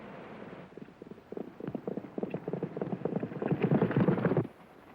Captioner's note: hooves pounding